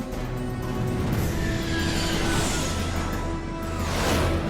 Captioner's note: engines whining